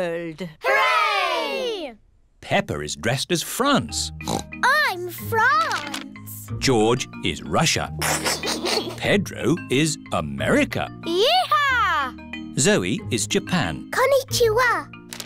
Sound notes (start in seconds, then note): 4.2 oinks; 8.0 giggles